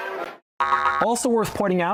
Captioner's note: boing boing boing